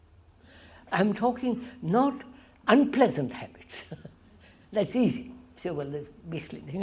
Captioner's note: laughs